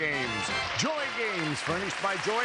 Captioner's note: applause